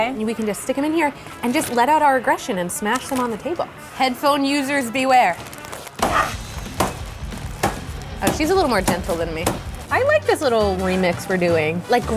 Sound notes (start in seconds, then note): 6.0 thuds